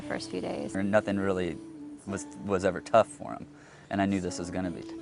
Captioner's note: voiceover